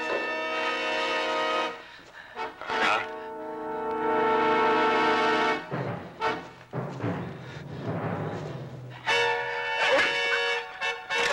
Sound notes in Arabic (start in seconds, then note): 0.1 موسيقى مشوقة; 2.6 تأوه